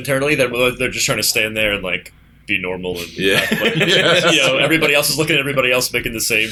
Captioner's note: laughter